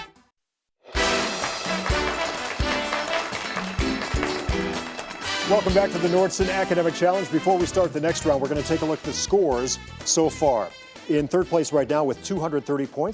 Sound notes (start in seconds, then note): 0.9 crowd applauding